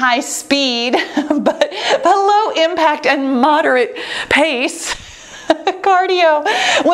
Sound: laughing

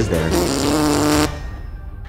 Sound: fart noise

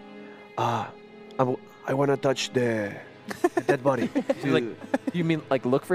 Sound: laughs

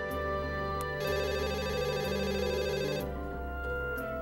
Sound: phone ringing

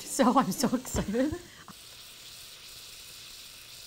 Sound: sizzling

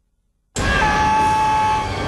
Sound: screaming

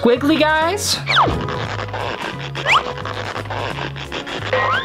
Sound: marker screeches

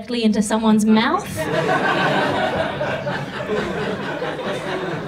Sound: audience laughs

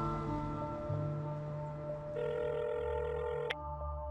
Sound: cellphone ringing

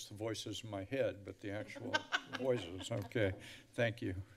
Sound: laughs

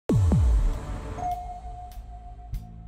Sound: drum beats; radar ping

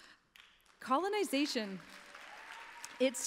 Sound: applause

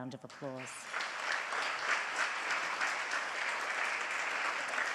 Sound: audience applauds

